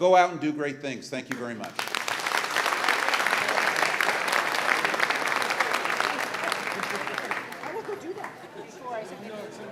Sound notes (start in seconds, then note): 4.3 applause